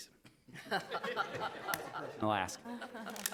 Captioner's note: all laughing softly